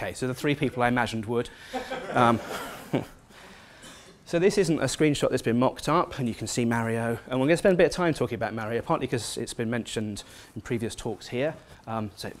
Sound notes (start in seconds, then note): 1.7 laugh